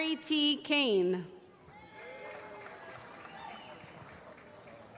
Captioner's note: applause